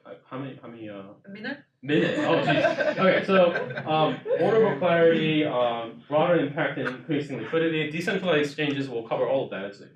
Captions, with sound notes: How many? - A minute. - A minute? (audience laughs) Okay, so order of inquiry, broader impact in increasing liquidity, decentralized exchanges will cover all those,